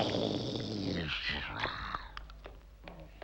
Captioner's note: snarling